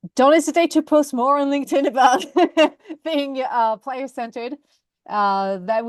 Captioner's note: laughs